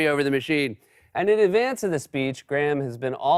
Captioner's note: normal voice